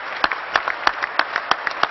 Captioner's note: applause